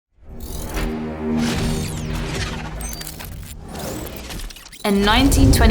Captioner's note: suspenseful music; screen whooshes